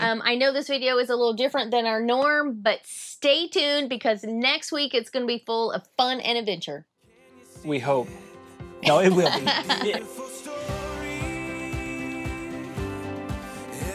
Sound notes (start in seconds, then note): 8.8 laughing